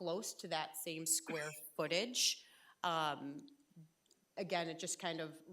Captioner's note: trustee coughing